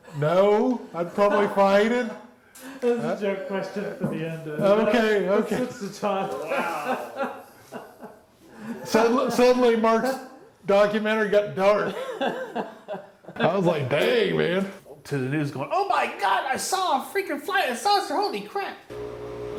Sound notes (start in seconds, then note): 3.0 laughs; 7.0 laughing; 11.8 laughs